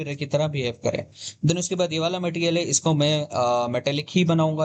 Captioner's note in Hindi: नाक से की जाने वाली आवाज़